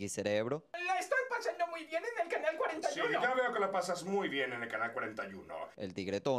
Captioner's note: Spanish voice of Pinky and the Brain